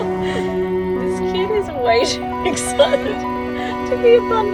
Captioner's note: laughs